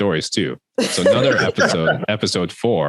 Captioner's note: both laughing